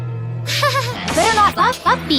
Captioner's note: nervous laughter